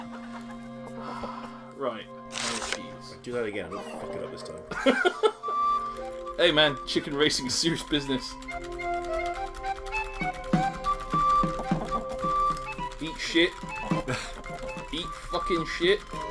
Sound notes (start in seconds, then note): 0.9 then sighs; 4.6 laughs; 13.6 NinjaFish laughs